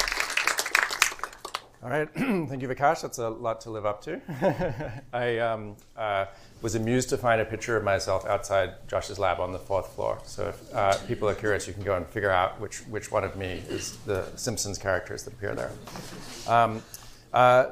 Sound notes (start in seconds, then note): 4.3 laughs